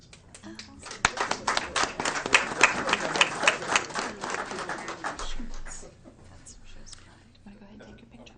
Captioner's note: applause